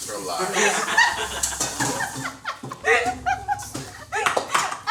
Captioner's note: all laugh